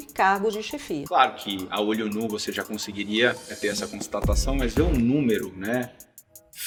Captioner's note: speaking Portuguese